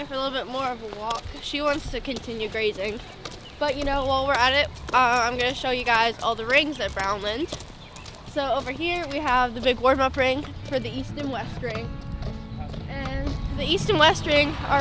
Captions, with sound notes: for a little bit more of a walk. 'Cause she wants to continue grazing, (horse walking) but you know, while we're at it I'm gonna show you guys all the rings at Brownland. So over here we have the big warm-up ring for the east and west ring, and the east and west ring are right behind that.